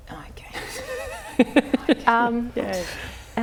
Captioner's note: laughs